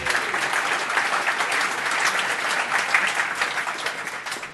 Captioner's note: applause